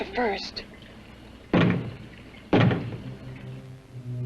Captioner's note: knocks twice